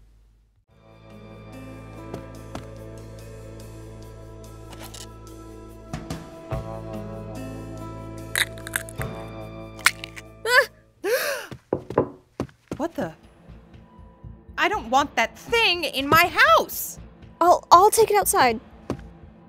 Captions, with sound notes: (Pear screams) (Mom gasps) What the- I don't want that thing in my house! I'll-I'll take it outside!